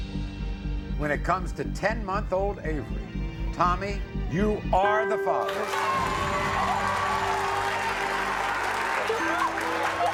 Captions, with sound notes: When it comes to ten month old Avery, Tommy, you are the father. (cheering)